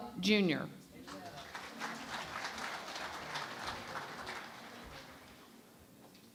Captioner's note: applause